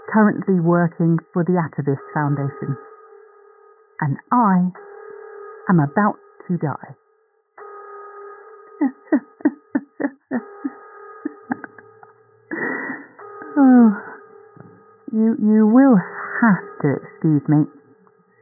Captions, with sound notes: currently working for the Atavist Foundation and I am about to die [Laughter / weeping?] Oh you you will have to excuse me